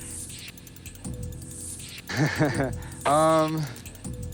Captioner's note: laughs